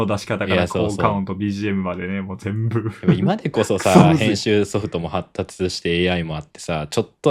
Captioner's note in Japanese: 笑い